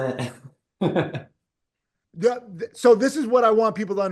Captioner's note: person laughing